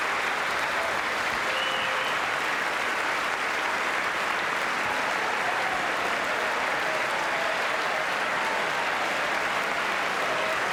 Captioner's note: applause